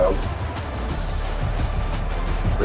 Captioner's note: crowd Noises